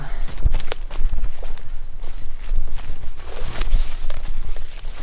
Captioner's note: footsteps pattering